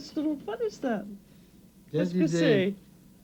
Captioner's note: speaking french